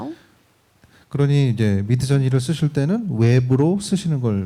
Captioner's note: speaking korean